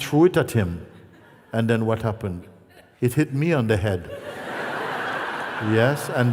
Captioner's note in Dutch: gelach